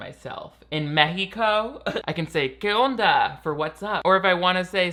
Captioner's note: speaking Spanish